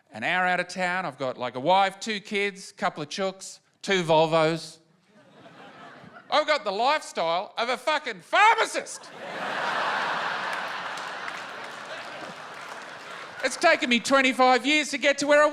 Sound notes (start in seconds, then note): 9.0 laughter and applause